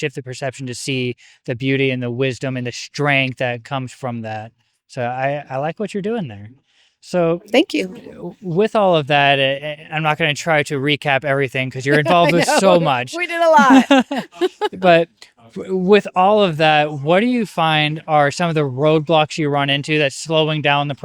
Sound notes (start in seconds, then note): 14.7 laughs